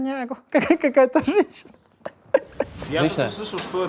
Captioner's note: laughs